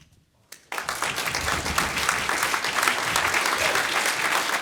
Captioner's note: audience applauds